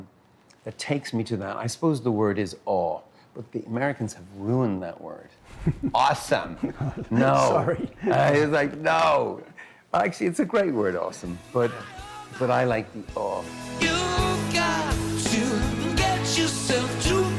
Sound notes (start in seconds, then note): 6.4 laughter